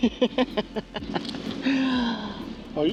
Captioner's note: laughter